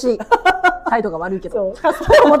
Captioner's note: laughs